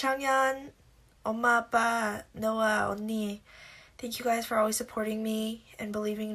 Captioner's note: non-english speech